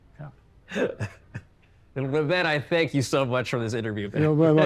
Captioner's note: laughs